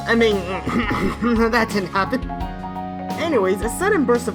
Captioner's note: fake coughs; nervous laugh